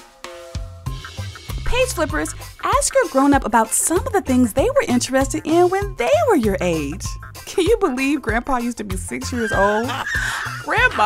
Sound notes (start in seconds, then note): 9.2 laughing